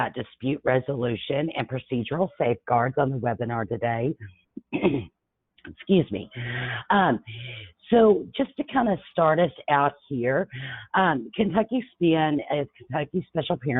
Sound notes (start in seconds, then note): 4.6 coughs